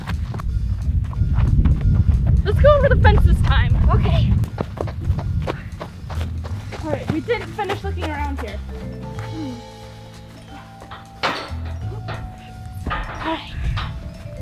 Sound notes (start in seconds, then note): 0.2 upbeat music; 4.7 footsteps; 8.5 upbeat music; 9.8 metal clanking